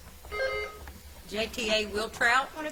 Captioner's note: bell ringing